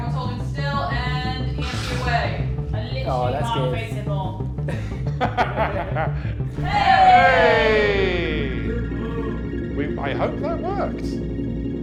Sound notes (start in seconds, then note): 4.7 laughs